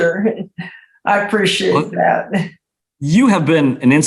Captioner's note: chuckles